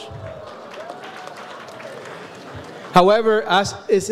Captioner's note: audience applauds